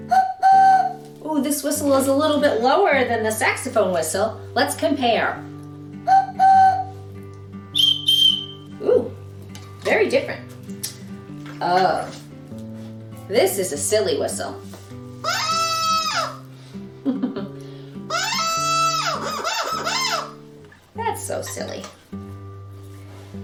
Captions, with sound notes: (toot, toot) Ooh, this whistle was a little bit lower than the saxophone whistle. Let's compare. (Toot toot) (tweet tweet) Ooh! Very different. Oh...This is a silly whistle (wheeeee) That's so silly.